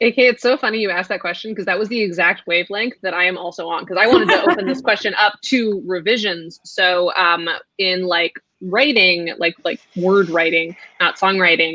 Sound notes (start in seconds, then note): 4.0 laughs